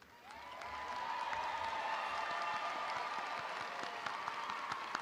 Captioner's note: audience applauding